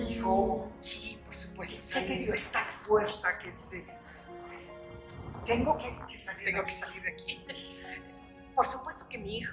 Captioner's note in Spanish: Risas